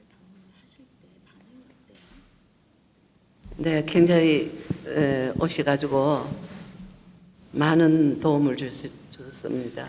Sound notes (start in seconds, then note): 4.0 speaking foreign language